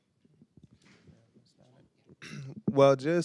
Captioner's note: panelists whispering; clears throat